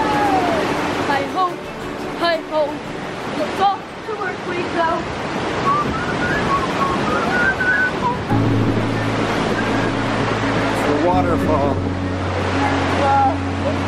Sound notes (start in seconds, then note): 5.6 family whistles; 7.8 peaceful music; 8.7 water rushes